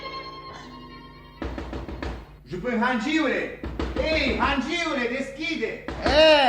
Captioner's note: knocks on the door